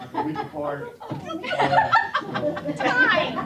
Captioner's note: laughter